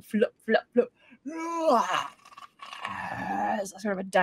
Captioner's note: Deborah groans